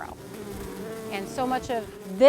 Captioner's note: bees buzzing